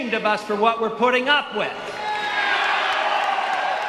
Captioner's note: cheers